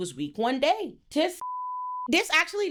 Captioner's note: beep